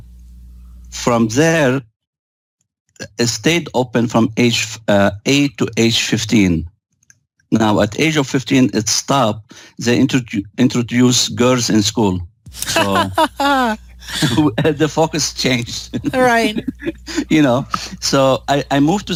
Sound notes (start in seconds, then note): 15.7 laughter